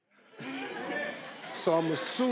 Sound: laughing

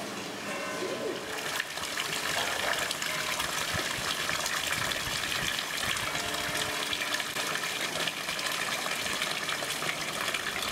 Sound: sound of water and church bells in the distance

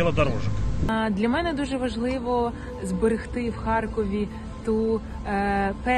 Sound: speaking Ukrainian

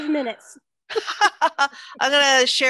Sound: laughter

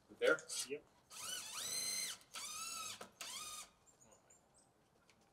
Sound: drill whirring

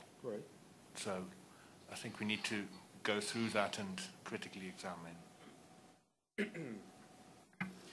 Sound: coughs

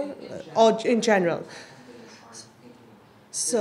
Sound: voiceover

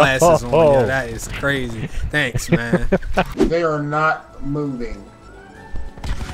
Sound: laughing

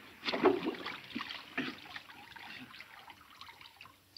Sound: water splashing

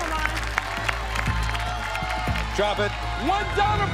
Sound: audience clamoring

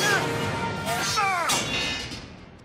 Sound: screaming

